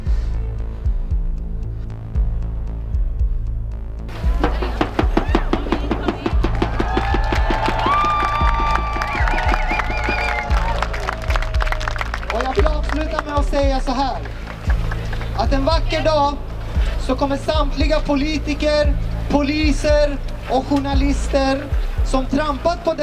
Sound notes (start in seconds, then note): 2.0 threatening ambient music with pulsing rhythm; 4.4 drums and joyful shouting